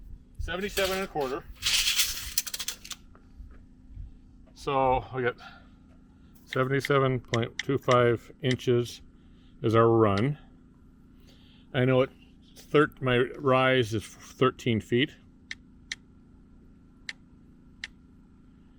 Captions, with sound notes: So, we got (buttons clicking) 77.25 inches is our run. I know my rise is 13 feet. (buttons clicking)